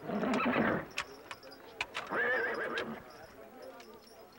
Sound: horse whinnying

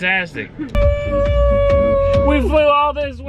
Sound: upbeat music; cheering

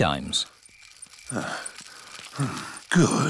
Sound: panting

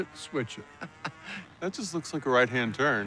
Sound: chuckles

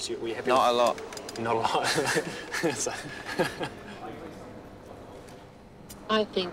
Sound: laughs

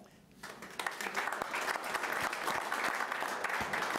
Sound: applause

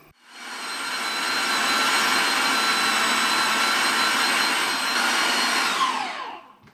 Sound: machine noise

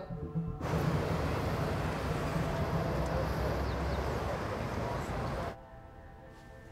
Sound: city noise

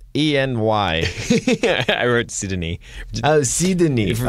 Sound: laughs

